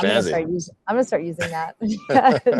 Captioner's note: laughs